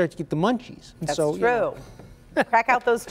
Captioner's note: laughter